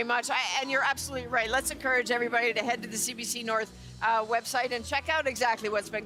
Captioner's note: speaking another language